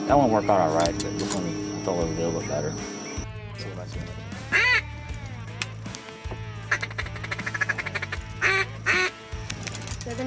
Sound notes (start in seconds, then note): 4.4 duck call quacks; 6.6 duck call chattering